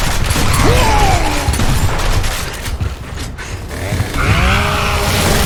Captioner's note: gun booming; avatar grunting; chainsaw whirring